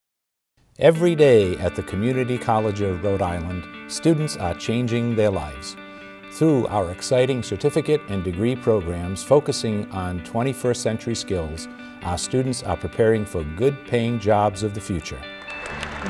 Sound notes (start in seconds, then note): 0.6 voiceover